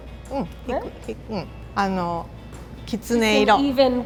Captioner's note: both speak a foreign language